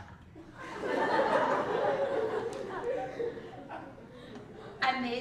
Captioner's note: laugh